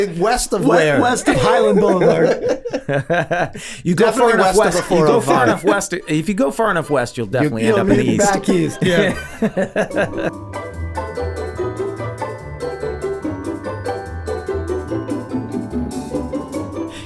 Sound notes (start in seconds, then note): 2.7 laughing; 10.2 bouncy music